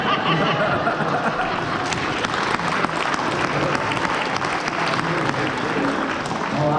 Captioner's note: applause